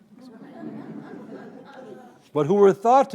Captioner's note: audience laughing